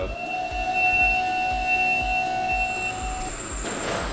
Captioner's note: lift platform ascends and beeps